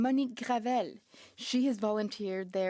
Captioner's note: speaking French